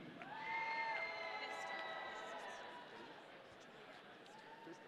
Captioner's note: audience cheering